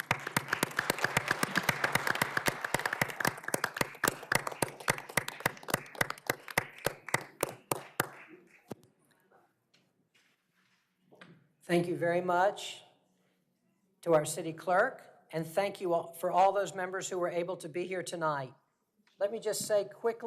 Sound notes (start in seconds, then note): 2.7 applause